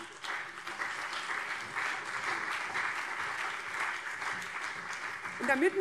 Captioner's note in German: Beifall CDU und SPD